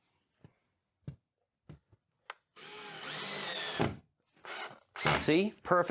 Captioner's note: drill whirring